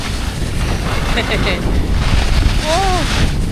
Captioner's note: chuckles